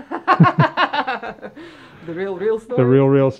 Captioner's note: laughing